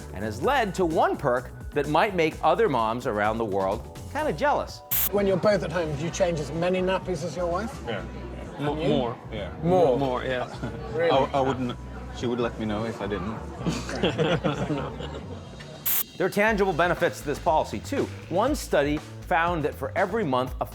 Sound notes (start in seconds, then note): 13.6 laughs